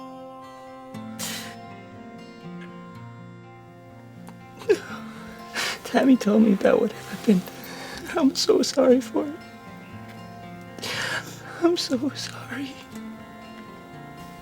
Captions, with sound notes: (Tom sighs) - (tearfully) No. Tammy told me about what happened. I'm so sorry for it. (tearfully) I'm so sorry.